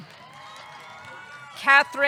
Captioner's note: audience cheering; audience clapping